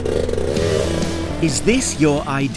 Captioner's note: bike engine revs; upbeat music